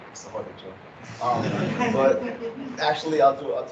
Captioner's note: chuckling